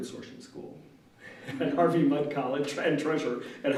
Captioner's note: laughs